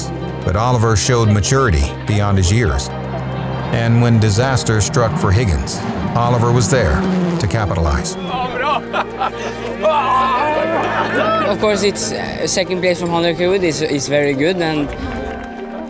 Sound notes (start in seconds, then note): 7.5 engine zooming; 8.0 laughing; 9.7 cheering